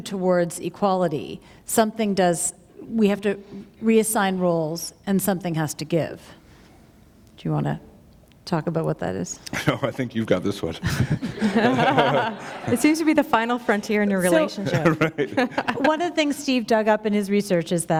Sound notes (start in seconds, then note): 10.8 laughter